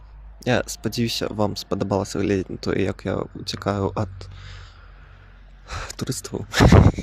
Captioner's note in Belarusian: уздыхае